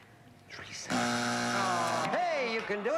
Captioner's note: buzzer